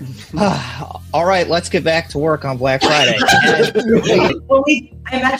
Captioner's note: sigh